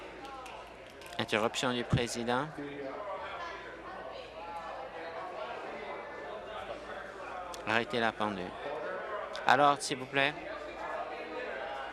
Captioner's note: applause